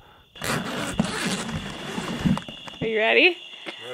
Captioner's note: zip buzzing